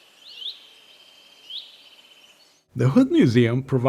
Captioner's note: birds chirping